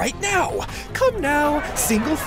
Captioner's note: angry mob intensifies